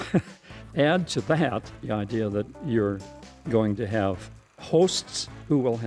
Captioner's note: they laugh